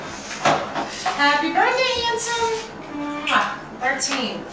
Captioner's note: kiss